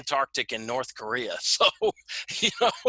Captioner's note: laughing